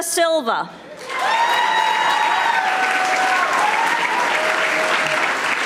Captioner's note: audience applauding